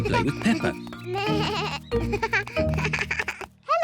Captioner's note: bleating